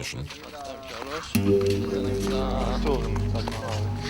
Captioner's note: French spoken audio